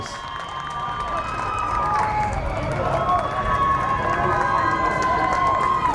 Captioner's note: crowd cheers and applauds